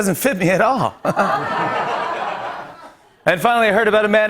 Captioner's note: laughter